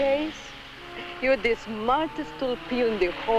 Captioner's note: speaks in Spanish